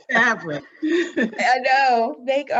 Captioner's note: laughs